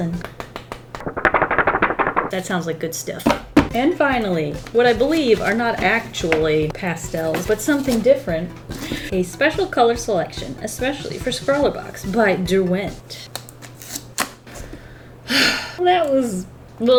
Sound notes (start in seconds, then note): 0.1 paper noises; 13.3 package opening; 15.2 sighs